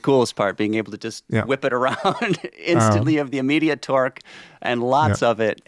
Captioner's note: chuckles